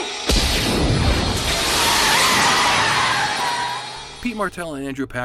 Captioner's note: booming; tires squealing